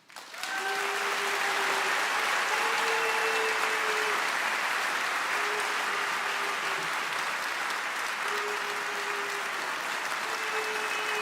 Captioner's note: cheering and applause